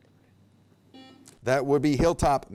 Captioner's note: buzzer beep